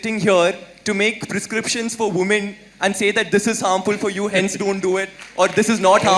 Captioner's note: Sadhguru laughs